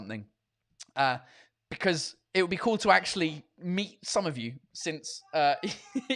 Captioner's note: laughs